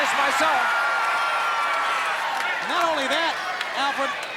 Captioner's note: crowd cheering